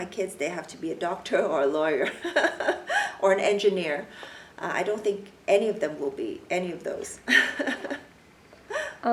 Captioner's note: laughs